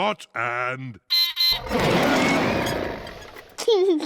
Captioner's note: beeps and roars; laughs